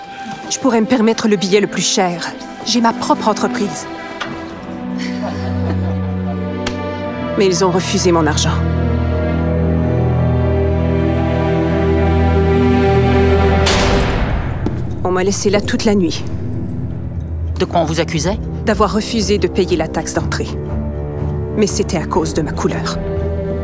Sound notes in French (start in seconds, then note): 4.8 Rire; 9.0 Musique dramatique; 13.5 La porte de la cellule claque